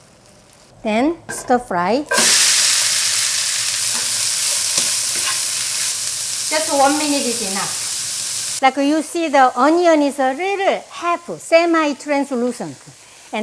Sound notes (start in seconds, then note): 2.8 pan sizzles